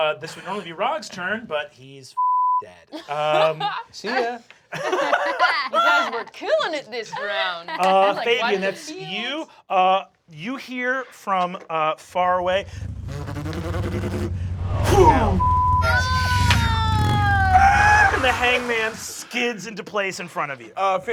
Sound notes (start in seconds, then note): 5.5 laughter; 12.2 buzzing